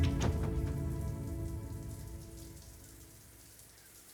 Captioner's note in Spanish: Sonido del agua al caer